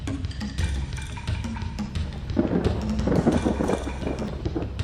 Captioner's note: thunder crackles